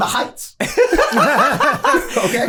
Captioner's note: all laughing